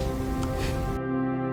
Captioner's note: Max scoffs